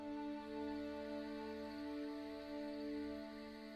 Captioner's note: crickets chirping